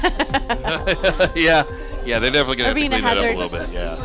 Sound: laughs

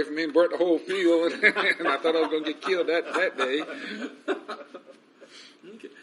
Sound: laughs

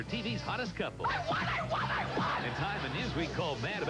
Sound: Jamie, screaming

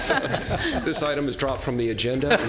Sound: LAUGHTER ok

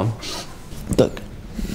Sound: sniff

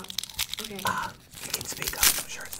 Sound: whispers

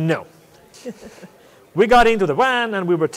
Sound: chuckles

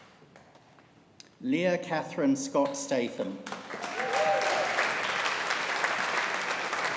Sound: audience applauding

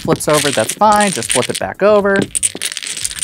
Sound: dominoes clattering

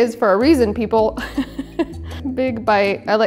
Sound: chuckles

